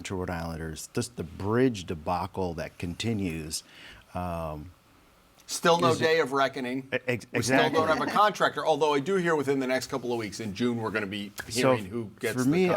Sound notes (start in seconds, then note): none